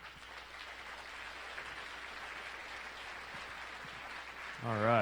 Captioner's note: applause